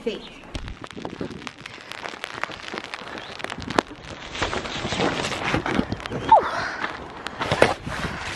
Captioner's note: sounds of heavy rain